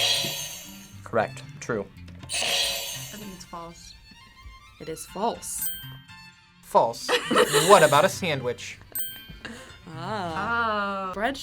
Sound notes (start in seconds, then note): 2.3 buzzer rings; 9.8 laughs